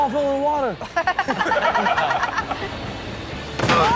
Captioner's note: laughing